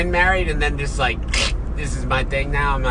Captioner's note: kcch sound